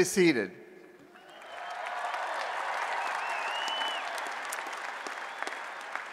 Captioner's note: applause and Cheering